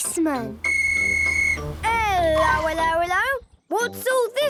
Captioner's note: whistle blowing